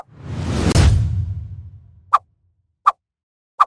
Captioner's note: logo whooshing; object thuds; logo whooshing